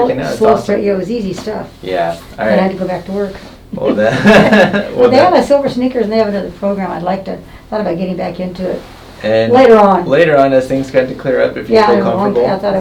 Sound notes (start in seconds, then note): 3.8 laughs